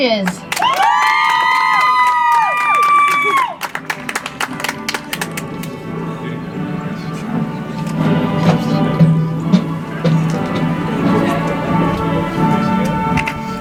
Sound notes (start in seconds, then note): 3.9 audience applauds; 10.9 soft music